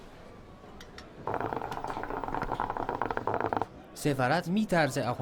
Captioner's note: hooka noises